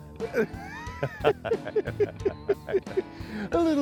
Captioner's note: laughing